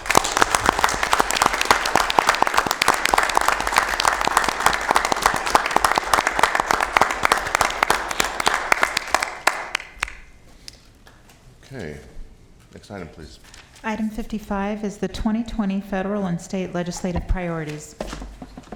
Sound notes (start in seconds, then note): 2.9 applause